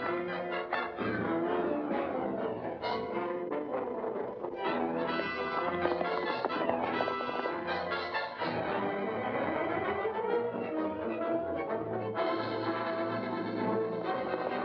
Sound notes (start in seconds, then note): 0.0 dramatic music; 5.5 hooves pounding; 7.4 dramatic music; 14.0 hooves pounding; 14.4 dramatic music